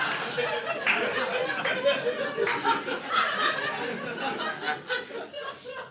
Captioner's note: laughter